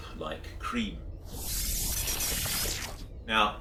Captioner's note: electronic sounds